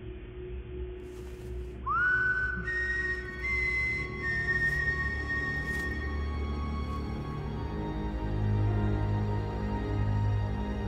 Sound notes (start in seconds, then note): 1.8 whistling; 3.4 ominous music